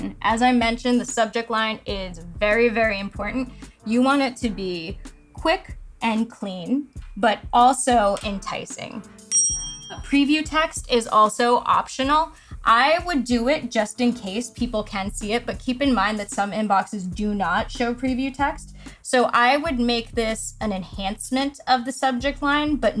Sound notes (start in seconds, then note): 9.2 bell dings